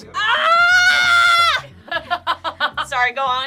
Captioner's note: yells